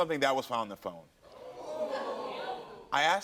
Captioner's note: audience reacting